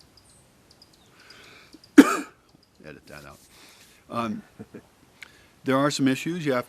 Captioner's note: cough